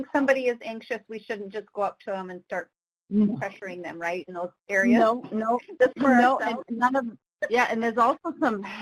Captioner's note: laughs